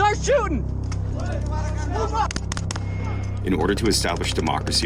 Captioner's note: soldiers speak in foreign language